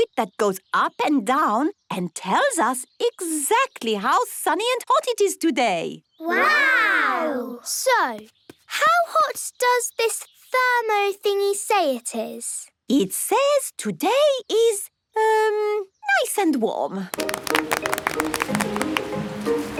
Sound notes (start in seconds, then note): 17.1 applause